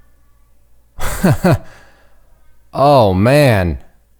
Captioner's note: laughing